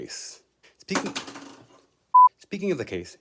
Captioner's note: case drops